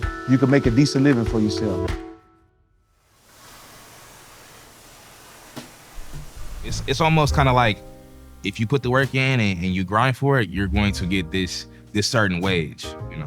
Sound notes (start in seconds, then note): 4.4 flame roaring